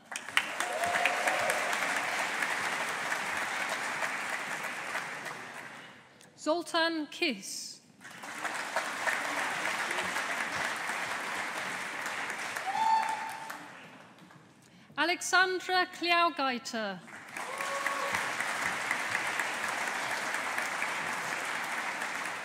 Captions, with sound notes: (AUDIENCE APPLAUDING) Zoltan Kiss. (AUDIENCE APPLAUDING) Aleksandra Kliaugaite. (AUDIENCE APPLAUDING)